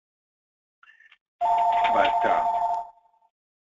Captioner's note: phone ringing